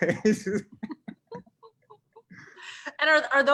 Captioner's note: both laughing